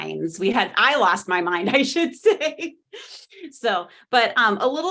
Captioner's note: chuckling